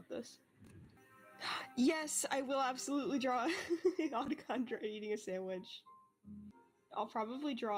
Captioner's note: gasp